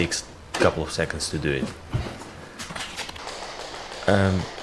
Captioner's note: squeaking